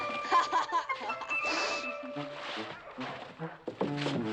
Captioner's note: sniffing